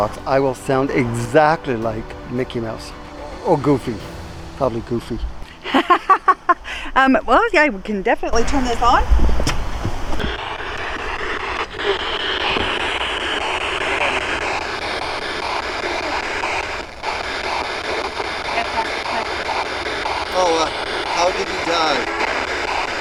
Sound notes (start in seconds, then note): 5.5 laughs; 10.3 electronic static hissing; 22.7 electronic static hissing